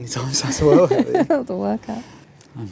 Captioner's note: laughter